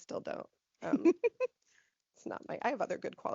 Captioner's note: laughing